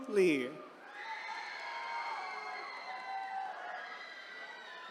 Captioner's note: attendees cheering